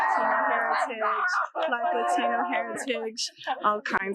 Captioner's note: students cheering